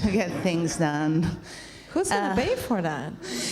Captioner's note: laughs